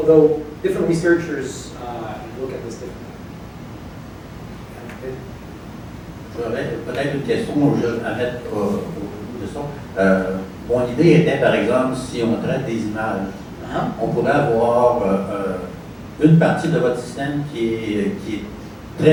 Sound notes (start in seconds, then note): 9.6 speaking french